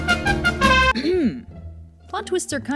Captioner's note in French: raclement de gorge